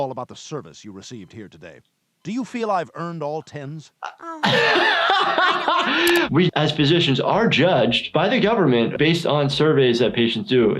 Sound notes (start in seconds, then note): 4.1 laughing